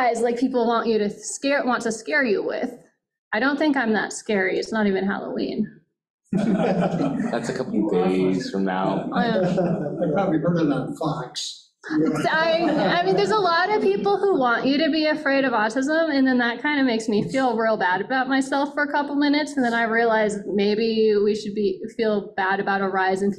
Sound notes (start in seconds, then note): 6.3 audience laughing